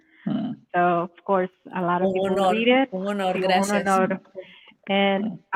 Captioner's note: speaking Spanish